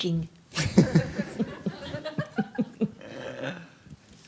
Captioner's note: audience laughs